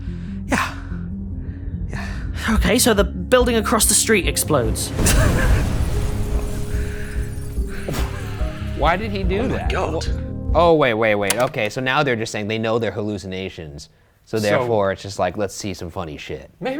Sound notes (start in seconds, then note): 4.8 explosion rumbles; 5.0 laughs; 8.2 laughs; 11.2 tape clicks